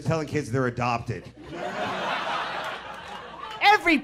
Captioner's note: people laughing